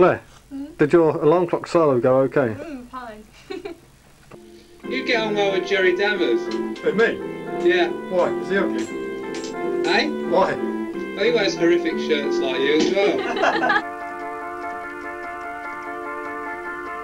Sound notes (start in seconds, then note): 3.4 laughs; 12.7 laughter